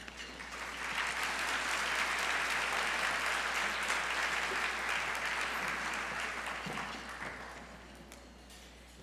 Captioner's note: applause